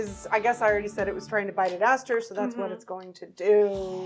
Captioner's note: none